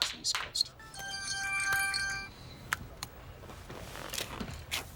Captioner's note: ringtone ringing